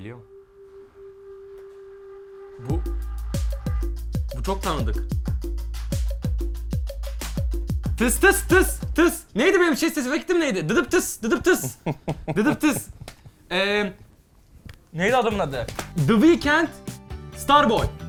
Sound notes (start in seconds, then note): 7.1 tss-tss-tss-tss; 11.3 laughter